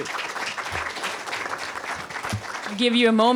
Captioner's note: applause